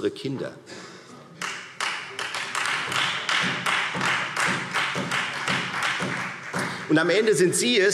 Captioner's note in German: Beifall